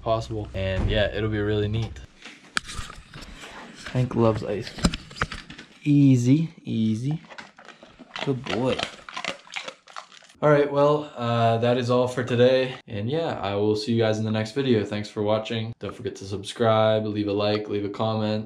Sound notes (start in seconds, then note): 6.8 chomp, chomp, chomp; 8.0 chomp